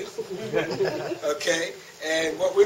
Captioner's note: laughter